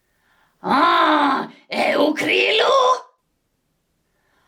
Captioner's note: alien sounds